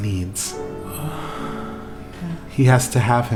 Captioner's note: soft moan